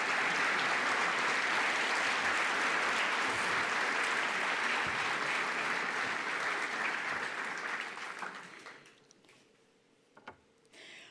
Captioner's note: applause